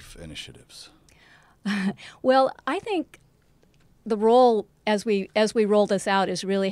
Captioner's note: laugh